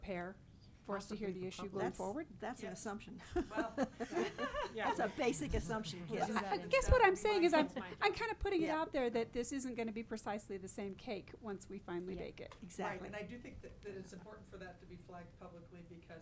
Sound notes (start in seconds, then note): 3.2 board members laughing